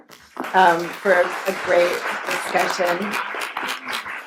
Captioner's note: applauding